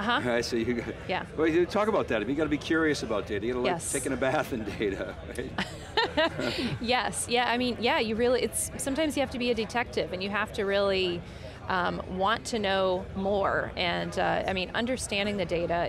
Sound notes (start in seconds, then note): 5.5 laughs